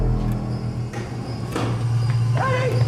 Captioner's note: elevator whirs